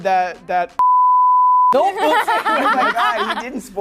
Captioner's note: laughter